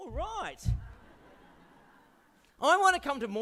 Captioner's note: audience laughs